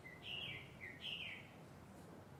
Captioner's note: birds Chirping